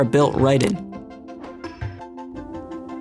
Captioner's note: click